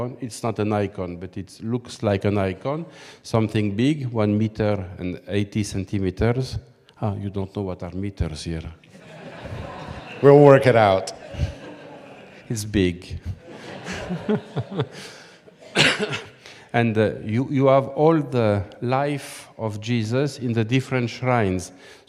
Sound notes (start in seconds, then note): 8.9 audience laughing; 13.3 laughs